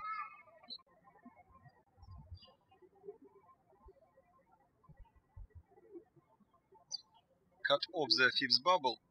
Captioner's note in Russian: птички щебечут